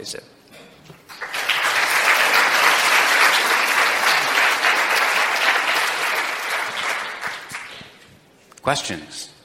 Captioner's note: applause